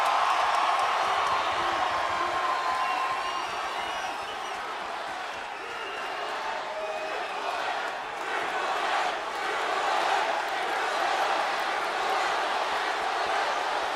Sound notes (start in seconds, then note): 6.0 audience chanting and clapping